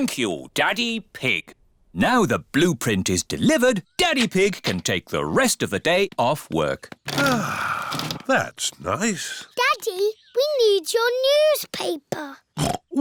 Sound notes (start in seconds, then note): 7.1 sighs; 12.8 snorts